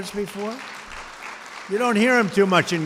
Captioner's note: applause